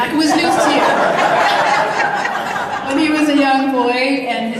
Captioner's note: audience laughs